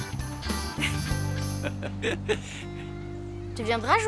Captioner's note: chuckles; laughs